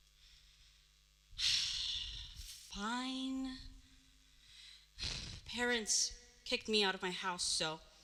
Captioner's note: sigh